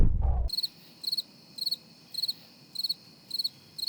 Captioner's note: cricket chirping